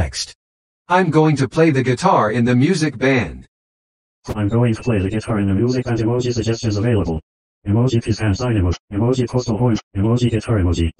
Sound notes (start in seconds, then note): 3.3 voiceover speaking; 6.9 voiceover speaking